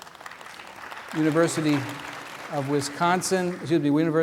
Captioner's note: background applause